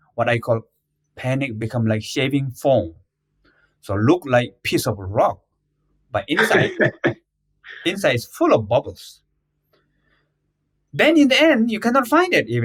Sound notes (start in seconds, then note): 6.3 laughs